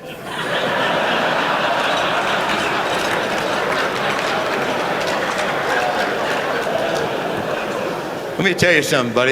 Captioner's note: laughter